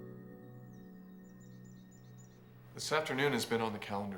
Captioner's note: birds chirping